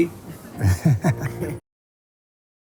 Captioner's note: laughing